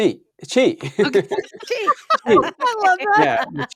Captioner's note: all laughing